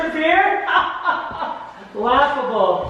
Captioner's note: laughing